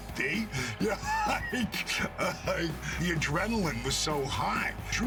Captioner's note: laugh